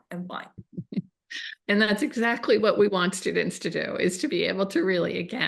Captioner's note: chuckles